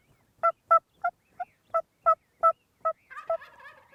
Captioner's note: turkey calling